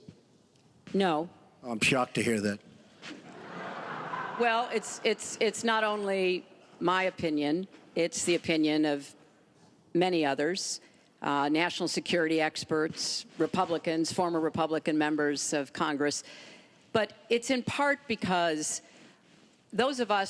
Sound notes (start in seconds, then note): 3.2 laughter